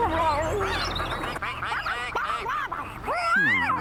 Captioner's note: ducks Quacking